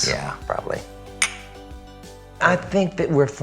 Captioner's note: clinks